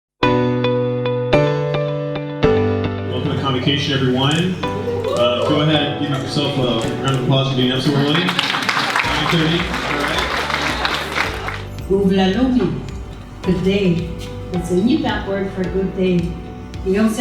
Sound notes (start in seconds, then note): 0.3 upbeat music; 4.8 audience cheering; 8.3 audience applauding; 12.0 speaking in Inupiaq; 17.0 speaking in St. Lawrence Island Yup'ik